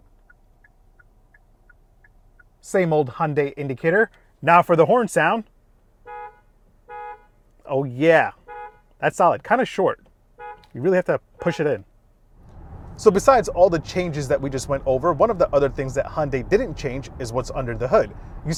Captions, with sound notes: (indicator clicks) Same old Hyundai indicator. Now for the horn sound. (car honking) Oh, yeah. (car honking) That's solid, kind of short. (car honking) You really have to push it in. So besides all the changes that we just went over, one of the other things that Hyundai didn't change is what's under the hood.